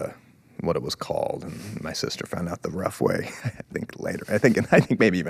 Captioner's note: chuckles